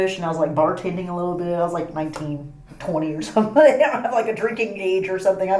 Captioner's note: laughing